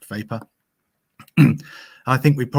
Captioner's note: clears throat